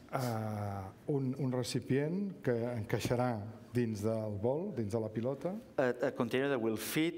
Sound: speaking catalan

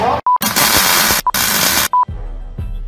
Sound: beep

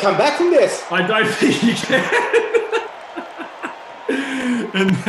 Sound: laughs

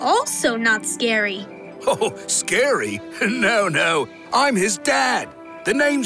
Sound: chuckles

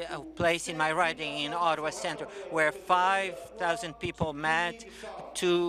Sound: speaking French

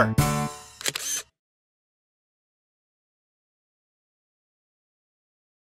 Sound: SFX: Camera Shutter

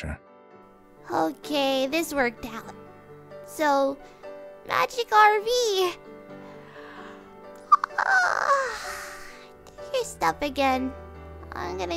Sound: yaaaawn

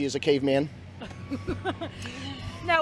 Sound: chuckle

